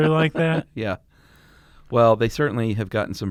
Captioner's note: laughs